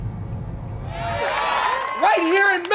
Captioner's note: cheering